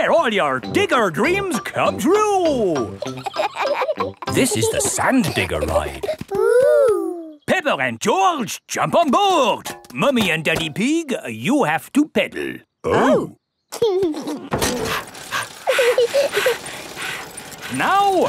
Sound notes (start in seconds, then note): 3.0 kids laughing; 14.7 mummy pig panting; 14.8 chuckles; 14.8 daddy pig panting; 15.9 peppa chuckles